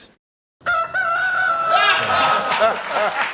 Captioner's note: rooster crowing; laughter